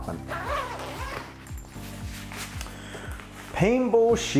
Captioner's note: zipper zipping